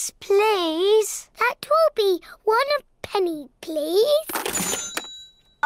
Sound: dings

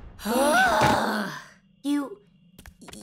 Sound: sighing loudly

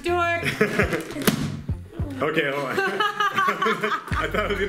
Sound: airzooka explodes

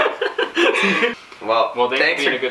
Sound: laughing

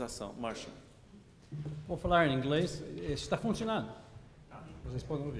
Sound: speaking portuguese

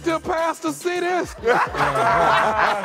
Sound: laughter

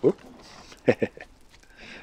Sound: chuckle

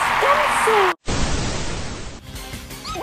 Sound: static

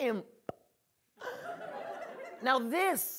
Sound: audience laughing

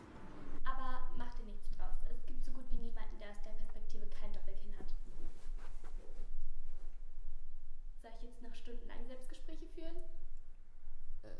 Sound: TV is running

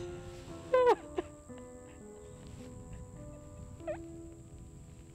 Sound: Brigit sobbing

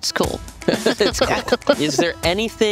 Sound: laughing

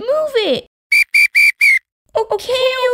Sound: whistle

